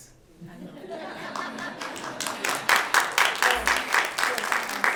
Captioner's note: applause